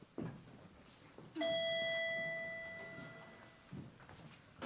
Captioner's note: elevator Ding